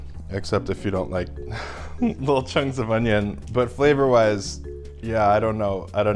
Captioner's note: laughs at my face